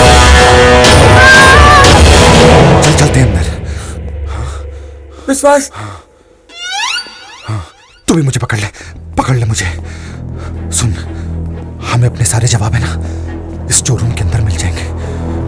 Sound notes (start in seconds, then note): 1.0 Screams